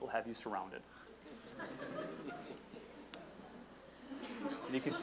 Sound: audience laughing

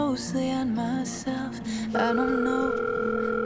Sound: phone ringing

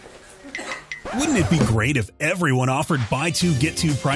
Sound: record scratch

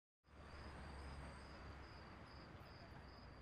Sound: chirping crickets

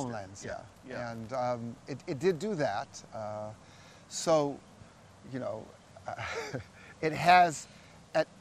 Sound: both chuckle

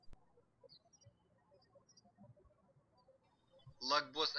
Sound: birds chirping

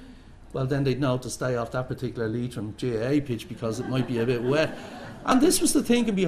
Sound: laughter

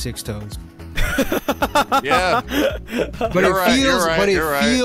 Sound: laughing

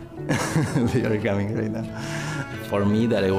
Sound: laughing

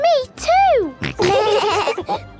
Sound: laughing

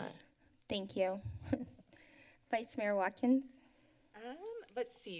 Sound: laughs

